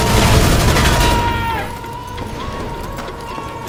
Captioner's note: explosion blasts; gunfire blasting